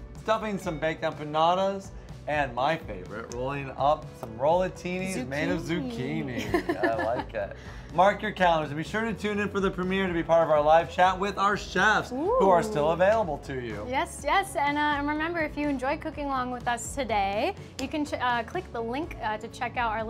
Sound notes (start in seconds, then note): 5.2 laughs